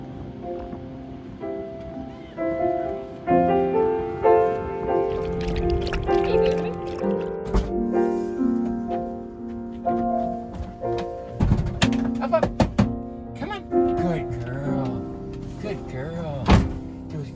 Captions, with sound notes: [dog drinking] [vehicle opening] Up, up! Come on, good girl. Good girl.